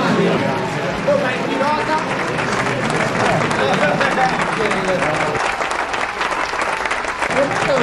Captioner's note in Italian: Applauso